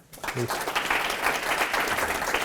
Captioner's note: applause